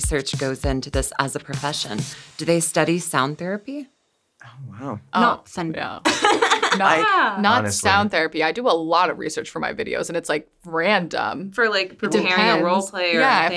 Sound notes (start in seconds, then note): 6.1 laughs